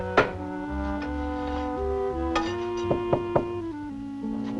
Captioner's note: knock On Door